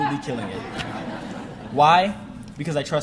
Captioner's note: audience laughing